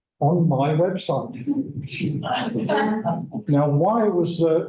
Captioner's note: laughter